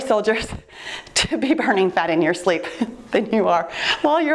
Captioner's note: laughs